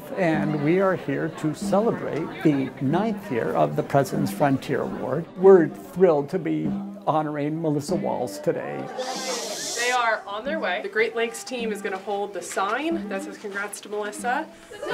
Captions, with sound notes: and we are here to celebrate the ninth year of the President's Frontier Award. We're thrilled to be honoring Melissa Walls today. [Shushing sounds] They are on their way. The Great Lakes team is going to hold the sign that says "Congrats to Melissa."